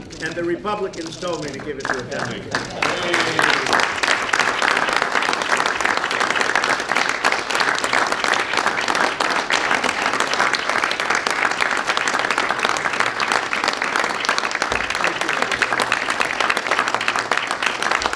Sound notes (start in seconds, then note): 0.1 laughter; 4.2 applause